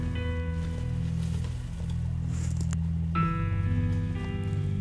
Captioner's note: leaves rustling